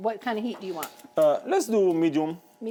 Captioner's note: burner clicks